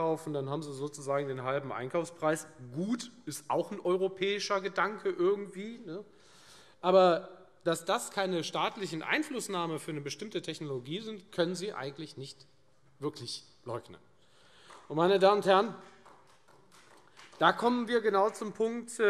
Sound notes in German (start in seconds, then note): 13.9 Beifall Freie Demokraten